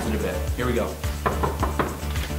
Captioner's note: knocks